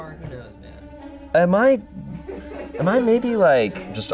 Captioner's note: audience laughing